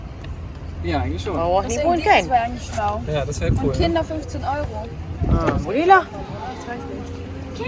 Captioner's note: speaking German; speaking German